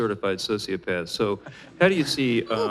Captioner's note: laughter